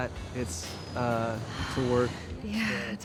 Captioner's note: Fern sighs